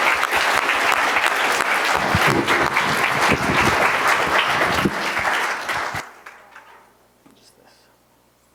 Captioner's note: applause